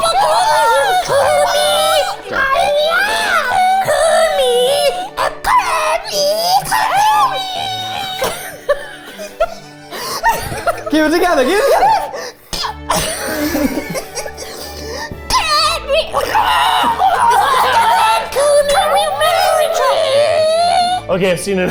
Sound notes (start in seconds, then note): 8.5 laughing; 13.6 laughing; 17.0 gurgles; 19.0 group laughing